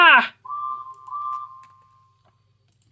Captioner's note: Gideon blows his whistle